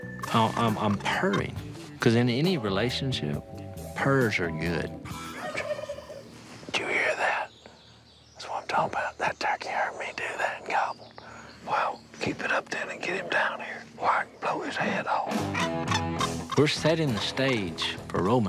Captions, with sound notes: I'm purring. Because in any relationship, purrs are good. [turkey gobbling] We're setting the stage for romance.